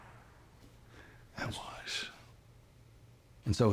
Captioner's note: scottish accent